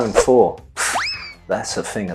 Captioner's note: pffft